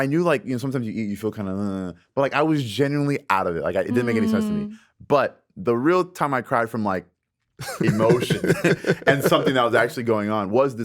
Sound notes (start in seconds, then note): 7.6 Justin laughs